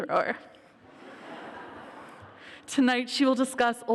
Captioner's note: laughter